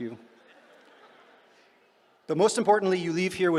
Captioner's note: laughter